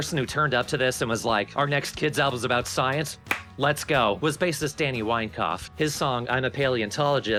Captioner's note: clap